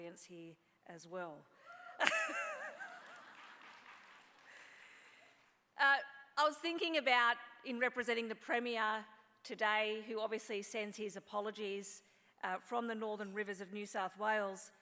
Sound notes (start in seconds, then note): 1.7 laughs; 2.8 applause